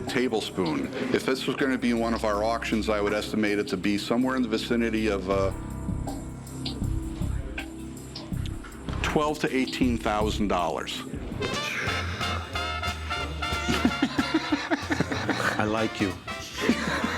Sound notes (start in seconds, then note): 5.0 suspenseful music playing; 11.3 celebration music playing; 13.5 laughs